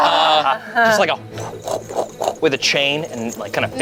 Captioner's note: laughs; whooshes